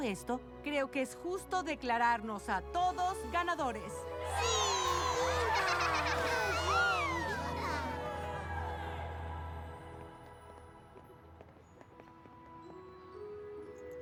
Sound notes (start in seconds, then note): 4.1 cheers